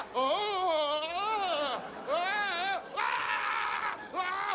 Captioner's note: kecking